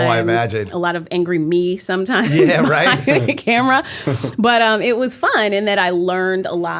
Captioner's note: laughter